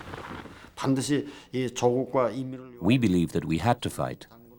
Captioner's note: speaking korean